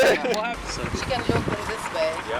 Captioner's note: laughter